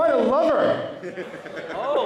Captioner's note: laughter